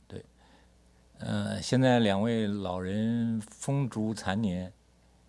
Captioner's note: speaks Mandarin